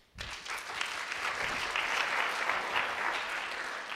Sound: applause

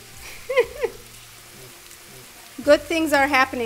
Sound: laughs

